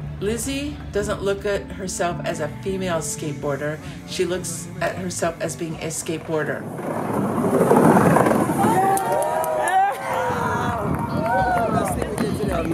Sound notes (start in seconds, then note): 9.6 crowd cheers